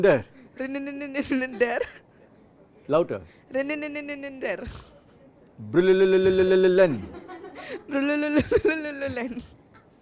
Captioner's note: students laugh